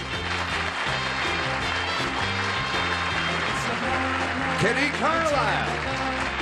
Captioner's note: applause